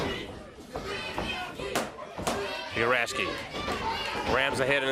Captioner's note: crowd cheering